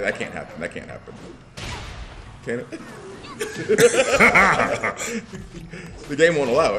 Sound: laugh

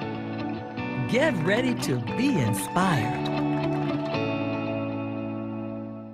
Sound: applause

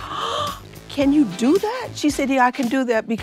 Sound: gasping

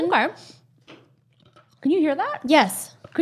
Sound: teeth crunching

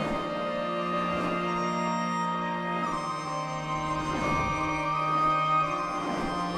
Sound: swooshing

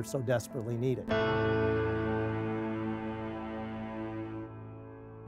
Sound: dramatic bell ringing

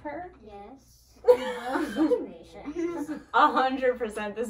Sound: laughs; laughs

